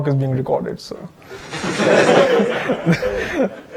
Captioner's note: audience laughter